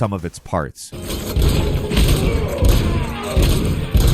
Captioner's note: gun shots